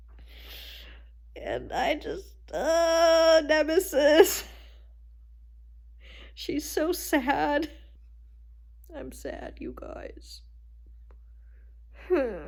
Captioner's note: cries